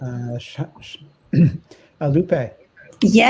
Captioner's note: clears throat